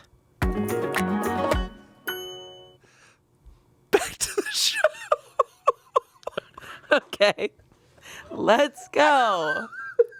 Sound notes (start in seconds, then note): 0.4 bright music; 6.3 laughs